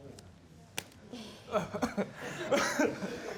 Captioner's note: chuckling